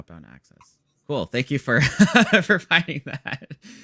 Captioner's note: laughs